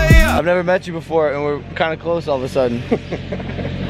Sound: guy laughs

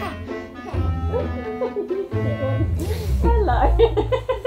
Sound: laughing

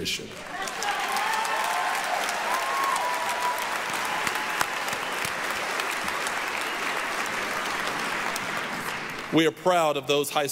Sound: applause, cheering

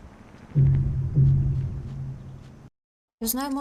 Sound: double sound of death

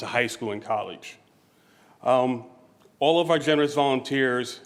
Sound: none

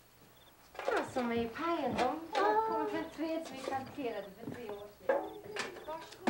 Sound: speaking in foreign language

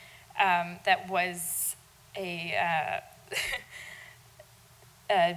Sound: laughing

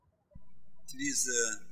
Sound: birds chirping

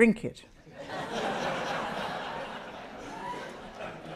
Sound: audience laughs

